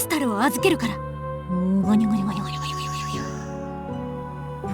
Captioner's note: secretive mumbling